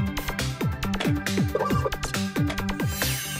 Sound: Roberto beeps

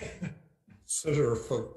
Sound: chuckles

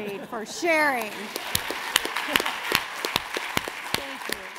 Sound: audience clapping

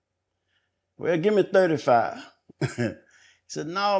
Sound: chuckles

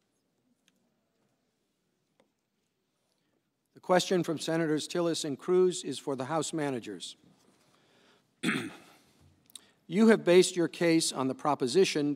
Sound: silence

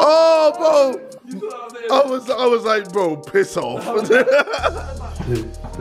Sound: laughs

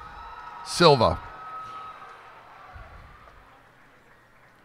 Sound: cheers and applause

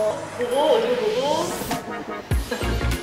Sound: burst into laughter after making eye contact

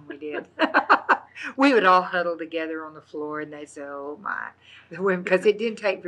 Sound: laughs

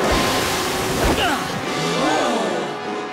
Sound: water splashing; audience surprised

